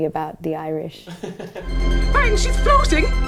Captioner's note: laughs